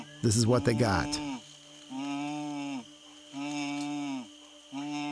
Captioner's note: low calling continues